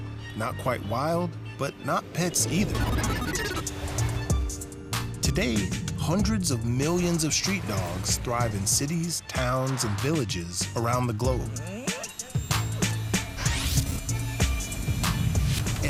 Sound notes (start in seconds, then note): 2.2 rapid electronic beeping; 3.6 hip-hop music; 11.3 squeaking yawn